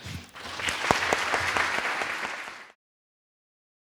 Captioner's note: crowd clapping